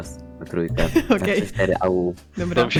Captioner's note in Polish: śmiech